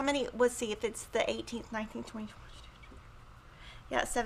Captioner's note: whispers